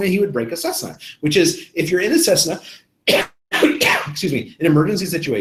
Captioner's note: coughs